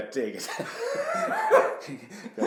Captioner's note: laughing